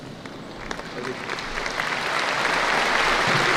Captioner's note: applause